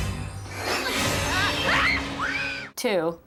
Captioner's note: both screaming